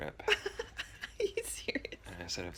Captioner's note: laughing